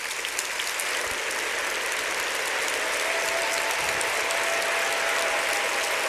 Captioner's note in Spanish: aplausos